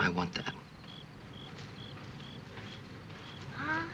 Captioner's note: rustling